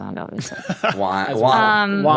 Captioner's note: laughs